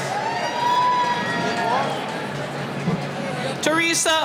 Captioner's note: cheering